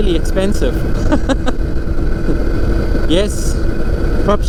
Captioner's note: chuckling